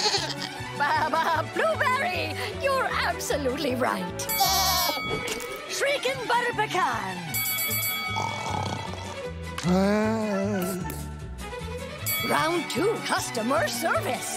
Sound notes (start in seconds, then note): 4.2 bell ringing, bleating; 7.3 bell ringing; 8.2 snoring